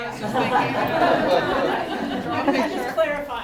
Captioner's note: laughter